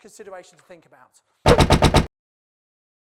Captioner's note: typing